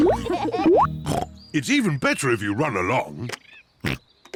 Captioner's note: all laugh; oinks; oinks